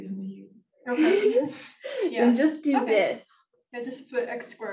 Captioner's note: laughs